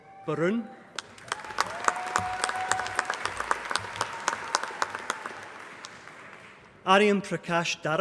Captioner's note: applause